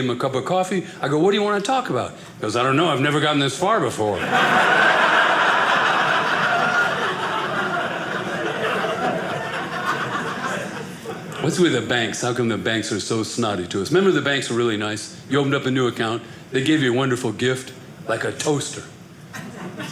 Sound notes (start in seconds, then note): 4.2 audience laughing